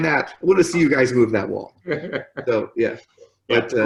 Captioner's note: laughs